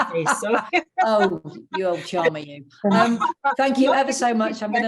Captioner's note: laughter